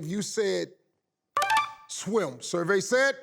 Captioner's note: tinkling